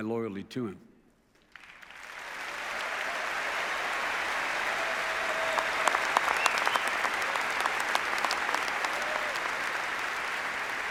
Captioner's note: applause